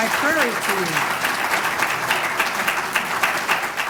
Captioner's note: applause